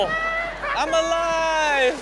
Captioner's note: all laugh